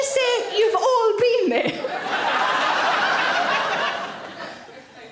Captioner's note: audience laughing